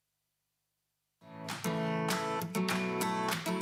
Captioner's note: applause